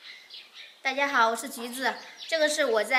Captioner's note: Mandarin